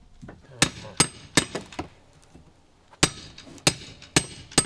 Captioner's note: hammer banging